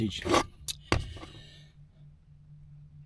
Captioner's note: drill whirring